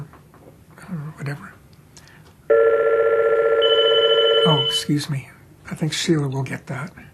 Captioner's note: phone rings